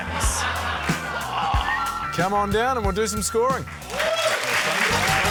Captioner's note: laughter; groans; cheering, applause